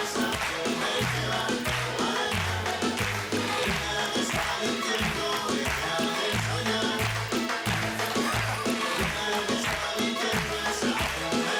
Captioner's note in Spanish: Palmadas al compás